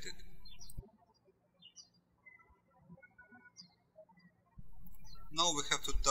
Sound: birds chirping

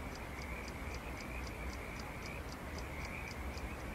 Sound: clock ticking; insects chirping

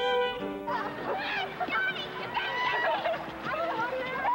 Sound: kids laughing

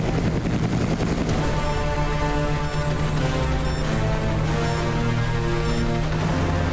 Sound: beeping

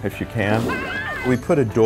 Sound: screaming

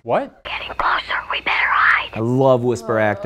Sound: whispering

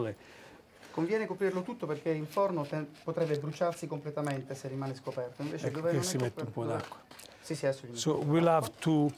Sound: speaking Italian

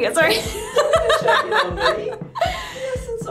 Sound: laughing

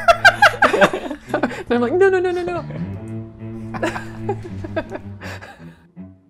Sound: laughter; laughter

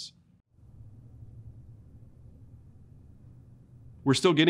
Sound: silence

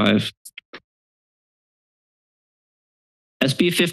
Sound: silence

